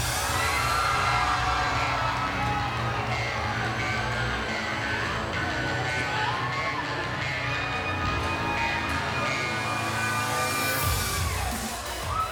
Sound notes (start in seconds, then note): 1.6 cheers & applause